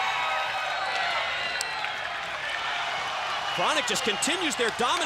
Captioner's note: crowd cheering